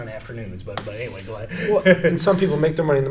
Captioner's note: laughs